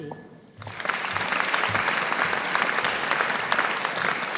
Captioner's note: audience applauding